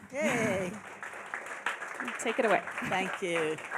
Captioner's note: applauding